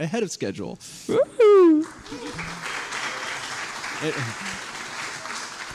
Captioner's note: applause